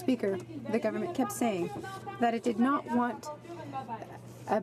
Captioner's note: speaking in french